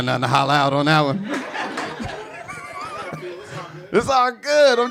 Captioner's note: audience laughing